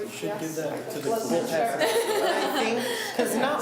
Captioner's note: laughs